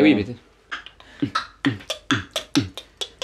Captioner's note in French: beatbox